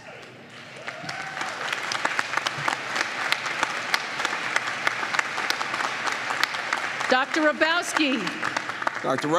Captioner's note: applause